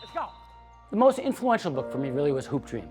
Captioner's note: whistle blowing